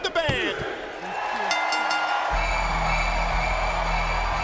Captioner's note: bell rings; intense music